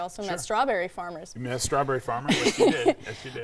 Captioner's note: laughing